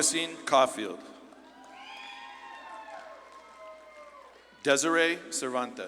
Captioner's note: audience claps and cheers